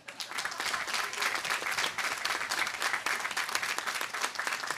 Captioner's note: audience applauding